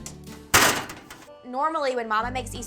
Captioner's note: oven door slams closed